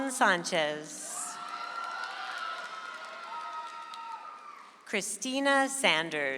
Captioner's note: audience applauds